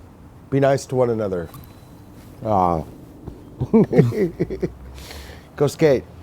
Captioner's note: laughing